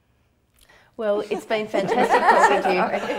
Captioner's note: everyone laughs